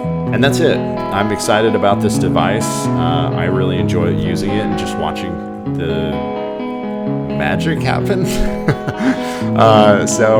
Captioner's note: laughs